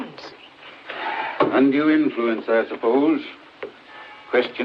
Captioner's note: sighs